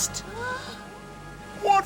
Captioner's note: Charlene gasping